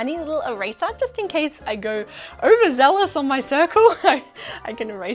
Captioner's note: laughs